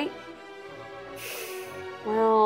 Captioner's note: inhales